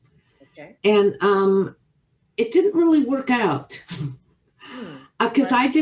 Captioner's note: chuckles